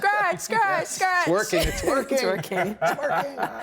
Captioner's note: everyone laughing